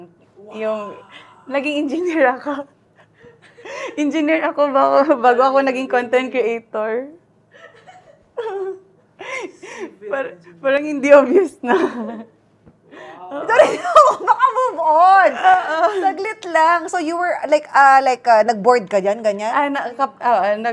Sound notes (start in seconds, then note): 4.1 laughs; 13.2 laughs; 13.4 in awe; 16.1 laughs